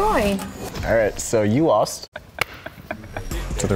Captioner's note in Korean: 웃음